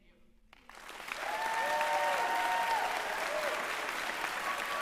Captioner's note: applause